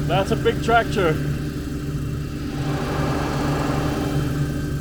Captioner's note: engine roaring